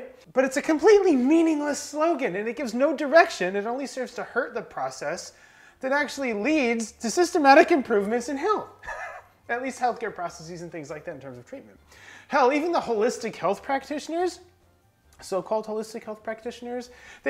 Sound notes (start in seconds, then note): 8.8 laughing